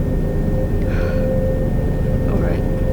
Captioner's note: sigh